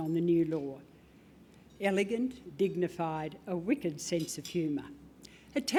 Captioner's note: none